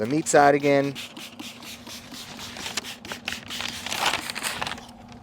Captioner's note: spraying